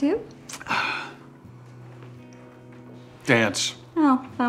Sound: sighs

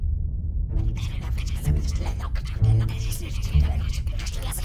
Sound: whispers

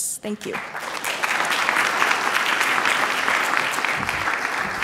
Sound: audience applause

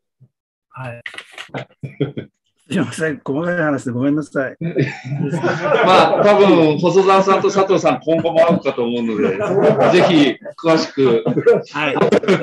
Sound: laughs

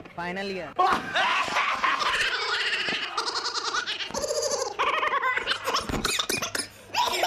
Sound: laughter Breaks Out

